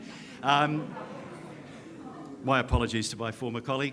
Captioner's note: audience laughs